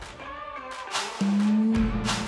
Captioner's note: swoosh~